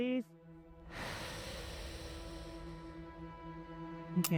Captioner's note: exhales